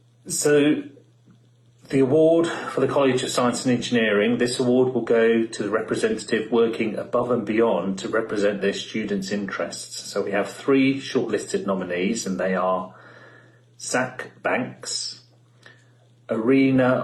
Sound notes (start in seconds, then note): none